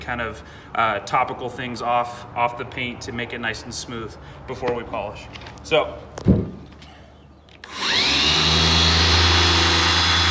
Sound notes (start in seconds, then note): 7.6 tool blaring